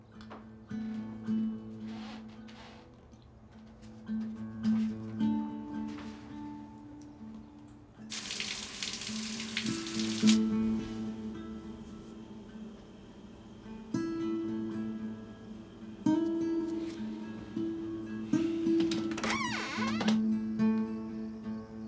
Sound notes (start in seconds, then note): 0.0 bleak acoustic guitar music; 8.1 water splashes; 18.8 door creaks